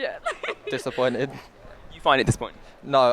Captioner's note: laughs